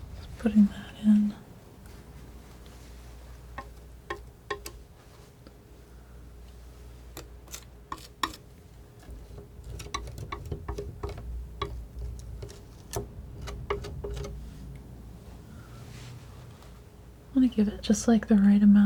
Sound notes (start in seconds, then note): 7.9 scissors snipping